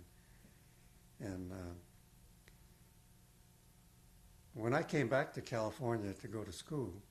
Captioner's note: pauses for 3 seconds